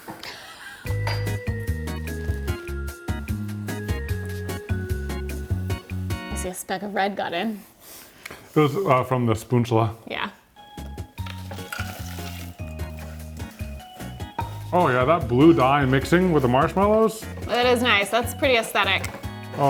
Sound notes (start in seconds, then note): 0.2 chuckles; 0.9 upbeat music; 10.6 upbeat music; 11.2 Takis rattling